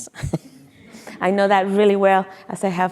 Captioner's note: chuckles